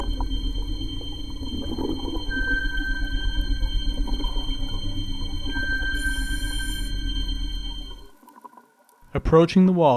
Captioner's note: sonar pings